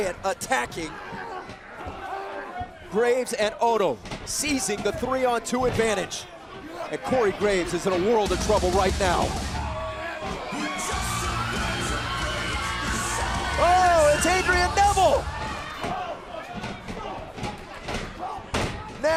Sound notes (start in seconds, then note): 11.4 crowd cheering